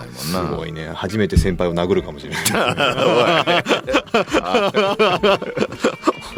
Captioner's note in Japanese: 笑い